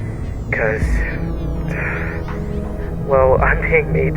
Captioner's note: sighs